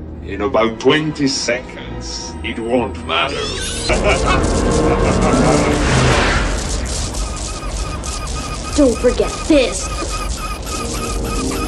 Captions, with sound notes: In about 20 seconds, it won't matter. HA HA HA HA HA HA [beeping bomb sound] Don't forget this.